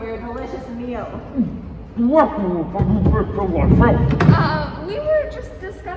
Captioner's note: mouth full